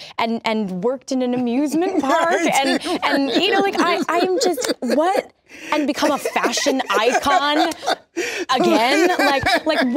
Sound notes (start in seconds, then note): 1.8 laughing; 5.4 laughs